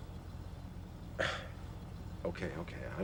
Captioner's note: scoffs